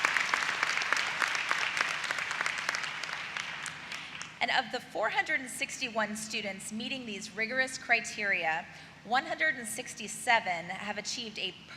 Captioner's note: applause